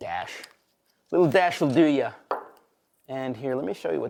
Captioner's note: bottle clunks